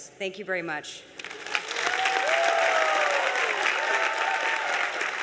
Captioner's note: applause